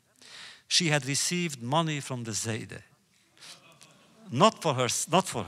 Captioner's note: laughter